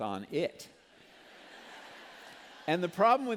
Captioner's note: laughter